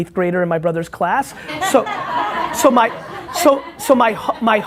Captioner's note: laughing